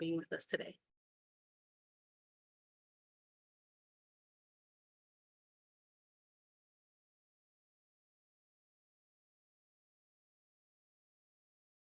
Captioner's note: silence - Presenter Signing Conversation